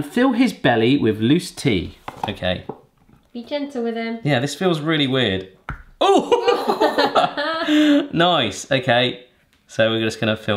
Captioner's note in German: plopp